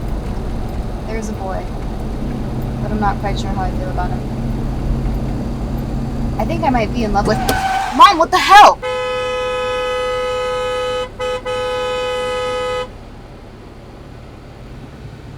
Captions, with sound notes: There's a boy but I'm not quite sure how I feel about him. I think I might be in love with- (tires screeching) Mom, what the hell?! (horn honking)